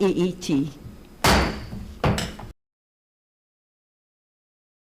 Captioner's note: gavel thumps